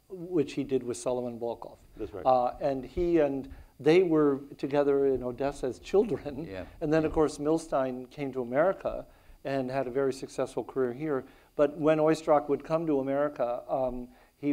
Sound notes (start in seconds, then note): 6.2 chuckles